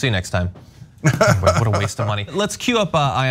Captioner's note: laugh